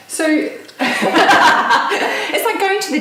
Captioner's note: laughing